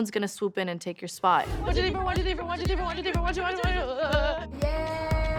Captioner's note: chanting